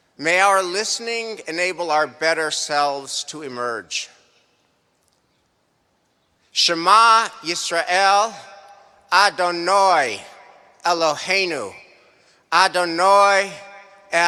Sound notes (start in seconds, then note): 6.6 speaking hebrew